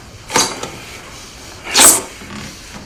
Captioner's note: knife blade slides along floor